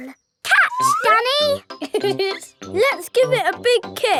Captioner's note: laughs